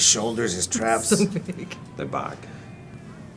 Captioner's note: laugh